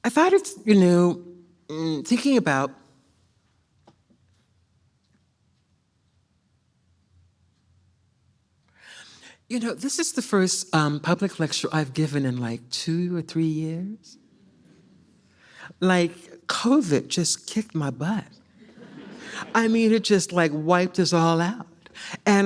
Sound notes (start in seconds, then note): 18.6 audience laughs